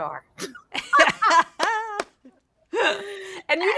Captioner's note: laughing